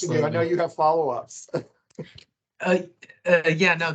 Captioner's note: chuckles